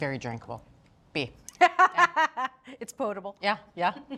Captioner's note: Julia laughs